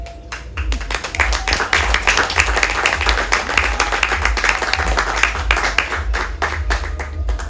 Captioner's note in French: applaudissements